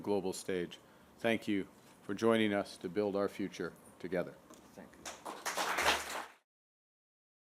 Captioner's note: applause